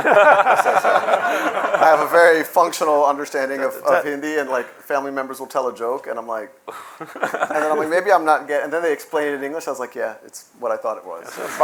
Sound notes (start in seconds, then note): 0.0 laughter; 6.7 scoffs